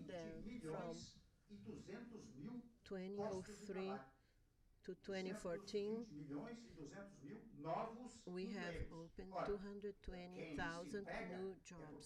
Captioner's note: through translator